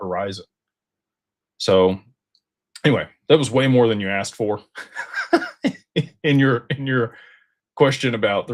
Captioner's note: laughter